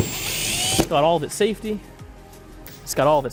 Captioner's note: power drill whirs